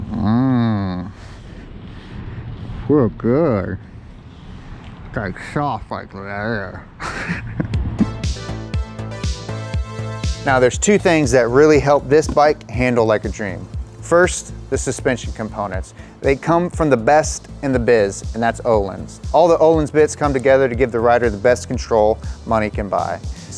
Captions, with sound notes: - Mmmh, feels good. It's soft like leather.(laughs) (upbeat music) Now there's two things that really helped this bike handle like a dream. First, the suspension components. They come from the best in the biz, and that's Ohlins. All the Ohlins bits come together to give the rider the best control money can buy.